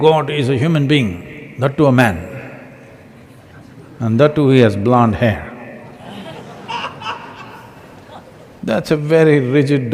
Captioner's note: laughter